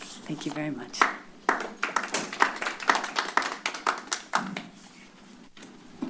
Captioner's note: applause